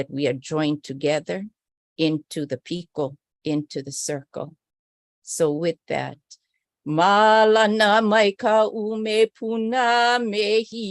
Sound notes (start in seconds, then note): 6.8 non-english speech